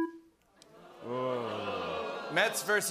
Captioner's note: audience "ohh"s